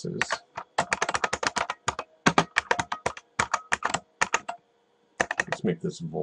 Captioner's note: typing